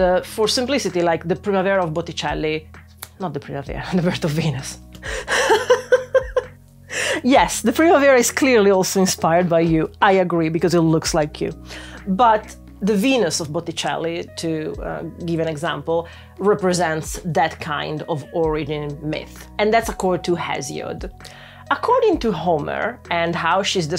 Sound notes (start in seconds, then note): 5.2 laughter